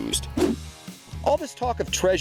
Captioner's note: swooshing